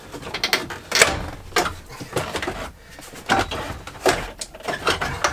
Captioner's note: dash rattling and creaking